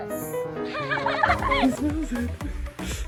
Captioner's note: person laughing